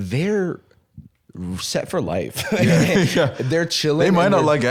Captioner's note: laughs